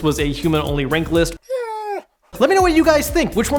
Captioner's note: wolf whining